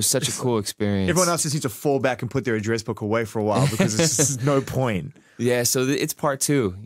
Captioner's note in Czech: smích